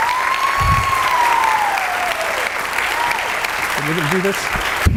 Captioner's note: audience cheering and clapping